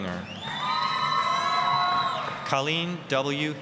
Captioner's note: applause, cheering